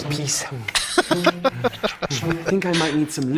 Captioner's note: laughing